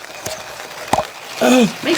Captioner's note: pleasant pop